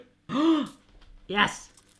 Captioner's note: gasps